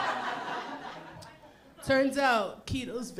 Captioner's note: laughter